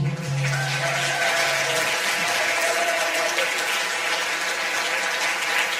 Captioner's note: audience applause